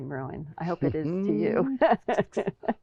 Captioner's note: laughing